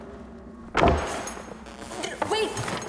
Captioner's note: door closes abruptly